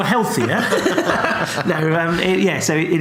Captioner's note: laughs